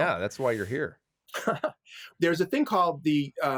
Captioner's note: laughs